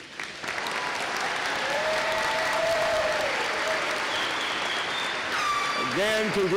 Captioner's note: applause